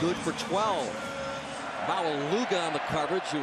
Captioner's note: pa announcement